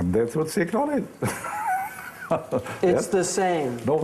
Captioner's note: laughing